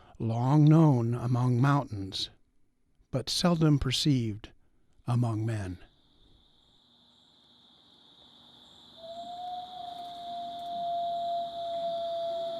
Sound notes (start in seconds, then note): 6.8 nature sounds